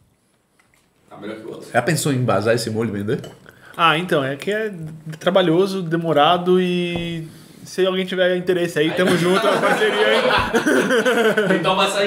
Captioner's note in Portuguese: risos